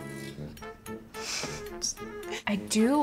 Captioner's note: laughs